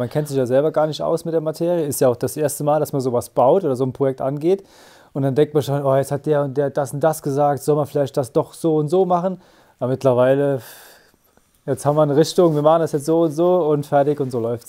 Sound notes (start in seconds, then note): none